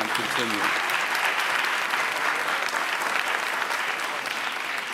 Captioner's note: audience applauds